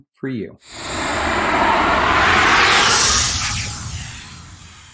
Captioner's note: logo whooshing